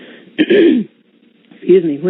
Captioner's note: clearing throat